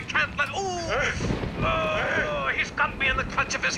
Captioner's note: grunting